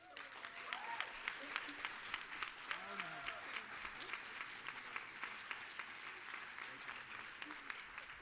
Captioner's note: applause